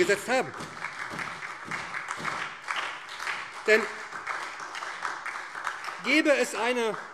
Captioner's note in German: Beifall